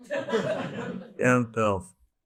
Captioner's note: audience laughs